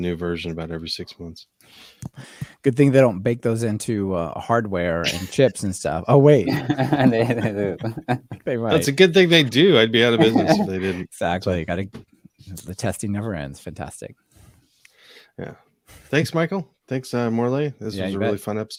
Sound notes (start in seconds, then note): 8.5 laughing